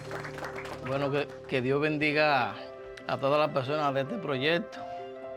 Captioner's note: speaking spanish